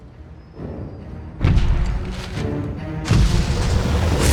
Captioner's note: thumping